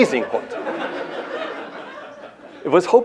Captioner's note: laughter